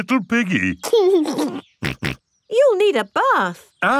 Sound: giggles and snorts

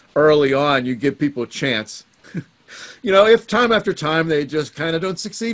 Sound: chuckles

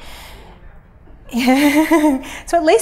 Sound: laughs

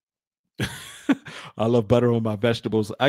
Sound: laughs

